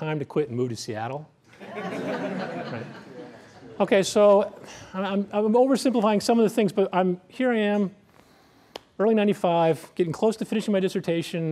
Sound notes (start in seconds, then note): 1.5 laughter